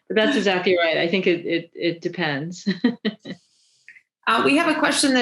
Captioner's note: laughing